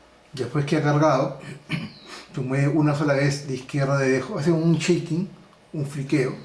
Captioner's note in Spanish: carraspeo